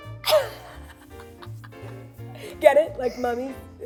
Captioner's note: laughter; upbeat music